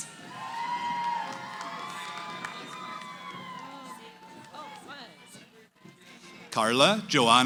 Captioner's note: cheering